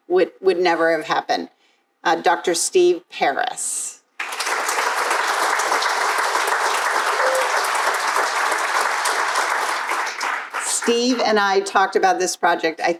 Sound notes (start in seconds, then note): 4.2 crowd applauding